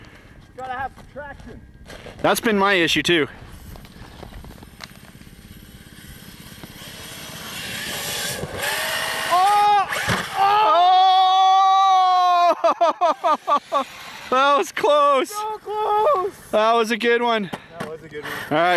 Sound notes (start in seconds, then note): 12.2 laughing